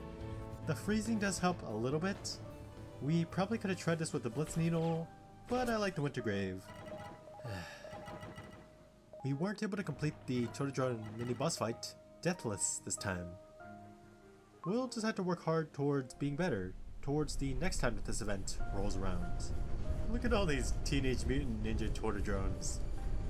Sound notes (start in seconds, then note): 7.4 sigh